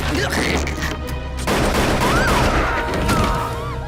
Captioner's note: dramatic music; guns firing; woman shrieking